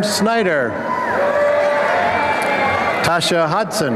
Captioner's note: applause and cheering